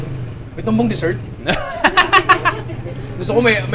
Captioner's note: laughs